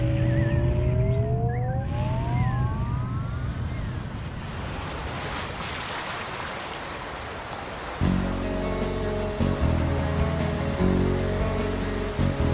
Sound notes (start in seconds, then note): 3.9 water rustling; 8.0 mellow music